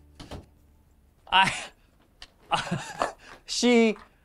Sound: laughs

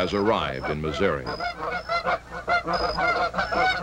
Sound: goose sounds

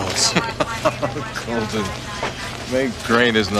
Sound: Frank laughs

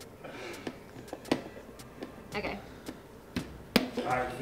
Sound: laughing

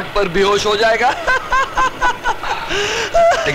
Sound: laughs

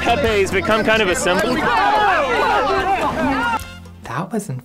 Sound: crowd noises

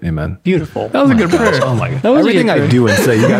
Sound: friars laughing

